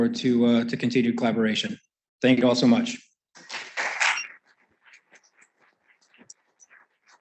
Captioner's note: applause